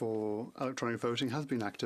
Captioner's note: speaking FRENCH